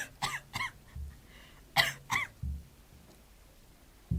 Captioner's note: coughing